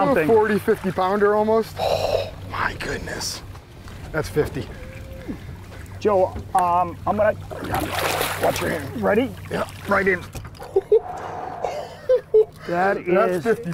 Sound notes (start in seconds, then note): 8.4 laughs